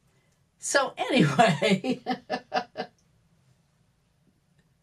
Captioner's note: laughs